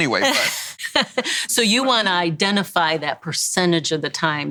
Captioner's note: laughs